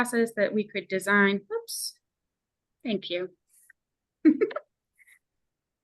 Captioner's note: chuckles